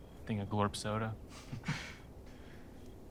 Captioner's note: both chuckle